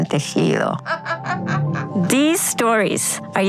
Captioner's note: laughing